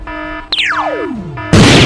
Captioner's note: boom; zap